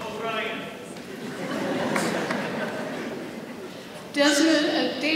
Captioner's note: audience laughs